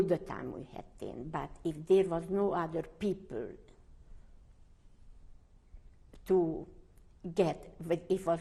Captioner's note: pauses for 3 seconds